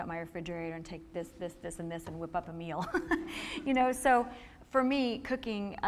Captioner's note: laughing